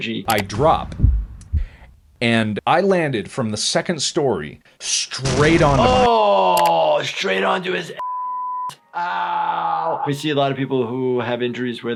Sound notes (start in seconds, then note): 8.0 beep